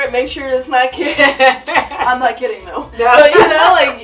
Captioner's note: laughs